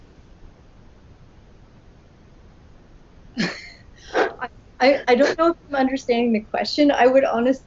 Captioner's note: laughs